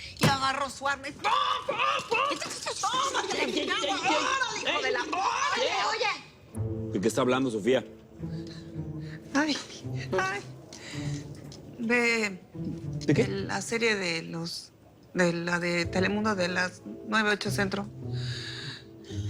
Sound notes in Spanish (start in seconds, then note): 2.2 Imita sonido de ametralladora; 4.2 Hablan al unísono